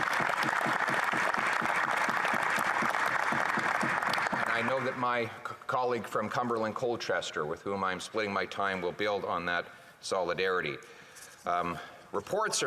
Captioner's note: applause